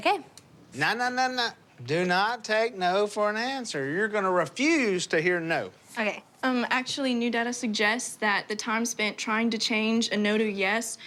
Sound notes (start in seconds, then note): none